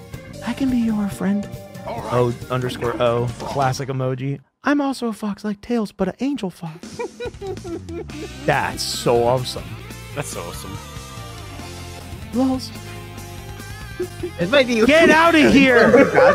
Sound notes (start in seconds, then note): 6.8 laughs; 15.3 laughter